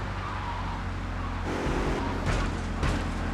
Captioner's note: muffled yelling